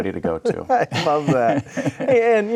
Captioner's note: laughing